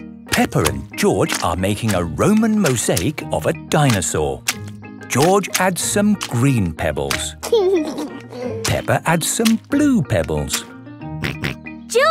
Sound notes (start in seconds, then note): 7.4 laughing